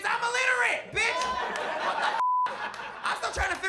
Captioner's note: beep